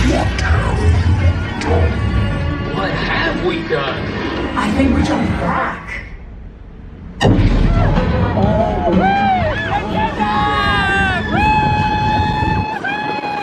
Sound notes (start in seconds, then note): 7.3 upbeat music; 9.5 all screaming